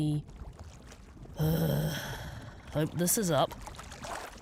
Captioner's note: sigh